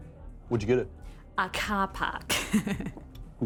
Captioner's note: laughs